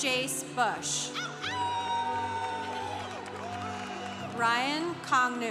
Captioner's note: congregation cheering